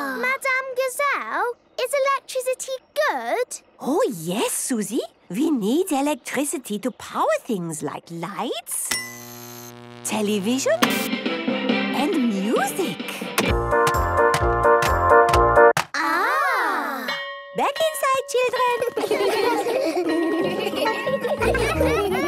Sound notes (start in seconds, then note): 8.8 light bulb buzzing; 9.2 TV static, show music; 13.8 clicks, music plays; 17.1 school bell